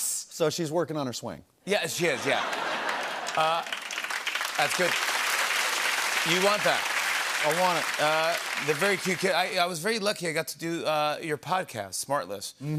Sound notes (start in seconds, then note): 3.0 laughter and applause